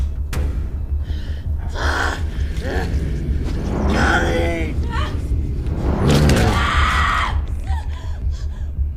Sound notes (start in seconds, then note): 1.5 Max groaning; 5.9 whooshing